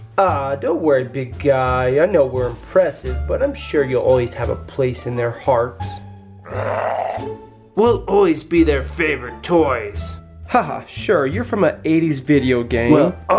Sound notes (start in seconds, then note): 6.4 growl